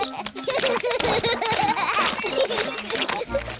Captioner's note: both giggling